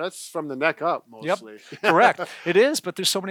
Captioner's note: laughs